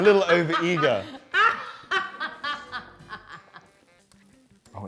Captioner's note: laughs